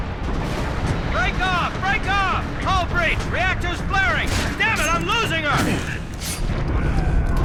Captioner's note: radio